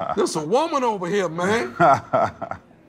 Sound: laughs

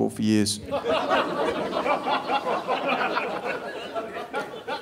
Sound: audience laughing

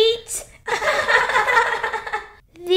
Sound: laughing

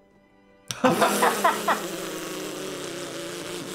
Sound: laughing

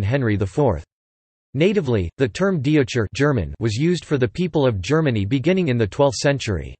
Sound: German

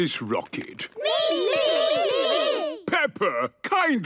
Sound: calling out in turn

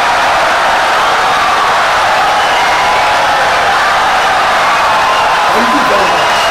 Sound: wild applause and cheering for 17 seconds

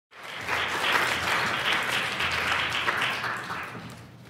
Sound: applause

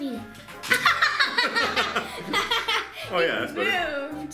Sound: laughs

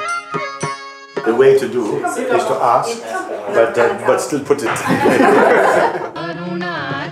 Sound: laughter

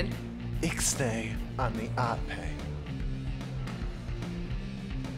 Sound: whispers

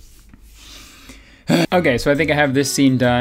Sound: sighs heavily

